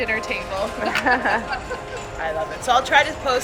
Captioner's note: both laughing